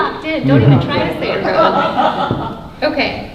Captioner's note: laughing drowns out speaker